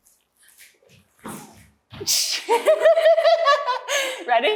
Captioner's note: laughter